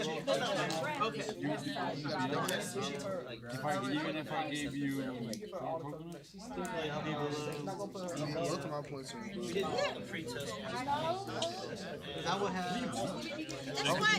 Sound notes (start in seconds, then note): 0.0 students murmur